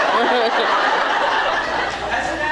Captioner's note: laughs